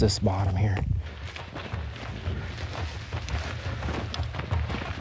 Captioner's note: footsteps crunching